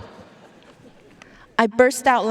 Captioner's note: audience laughing